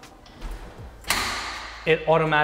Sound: lock clicks

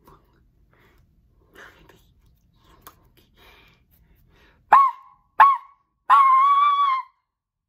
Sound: imitates dog

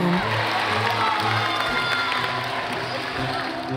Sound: crowd cheering

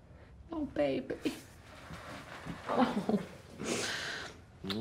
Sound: sniffles

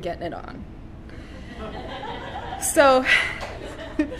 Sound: laughter

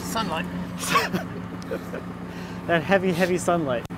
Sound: laughs

